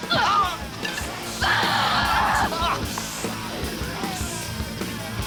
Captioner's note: girl screams